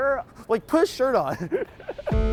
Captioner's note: laughs